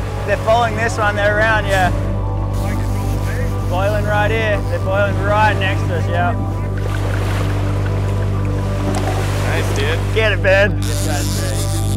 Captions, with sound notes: - They're following this one around, yeah filing right in. They're filing right next to us, yeah. (wine bubbling) - That's good. - Get it Ben.